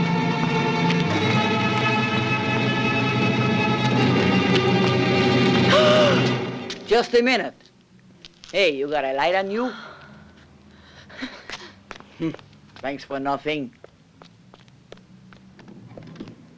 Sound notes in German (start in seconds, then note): 2.2 Helga schreit unverständlich